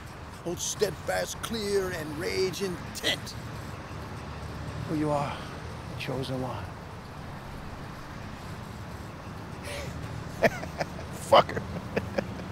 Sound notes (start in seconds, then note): 10.3 laughing